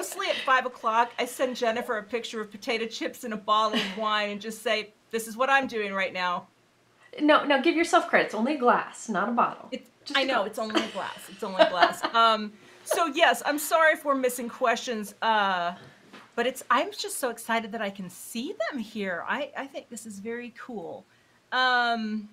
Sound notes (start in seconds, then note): 11.9 laughing